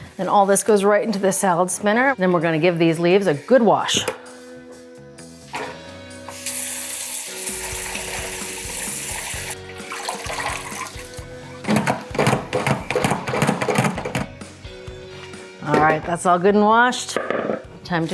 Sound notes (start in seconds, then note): 6.1 water rustling; 7.4 upbeat music